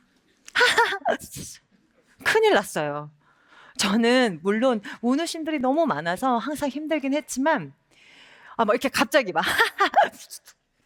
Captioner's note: hhhh